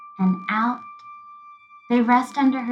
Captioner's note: high-pitched sound continues